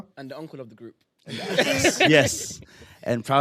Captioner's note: laughter